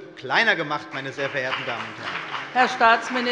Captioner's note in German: Beifall bei der CDU und dem BÜNDNIS 90/DIE GRÜNEN